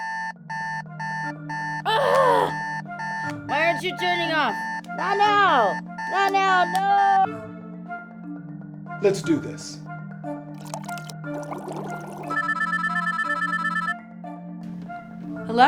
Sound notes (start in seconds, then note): 0.0 alarm clock beeps; 1.8 woman groans; 10.5 water bubbles; 12.1 phone rings